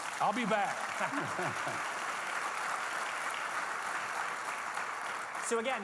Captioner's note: audience clapping